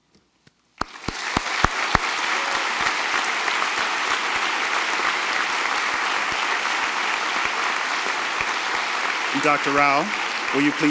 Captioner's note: applause